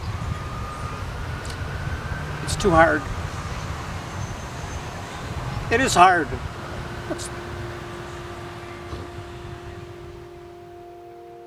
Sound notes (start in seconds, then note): 4.7 sobbing